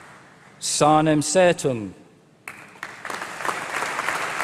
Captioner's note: applause